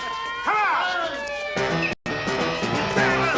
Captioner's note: sirens approaching